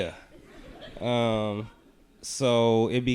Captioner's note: audience laughing